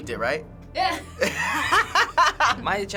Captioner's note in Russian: смеется; посмеиваясь